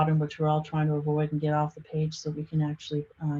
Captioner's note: none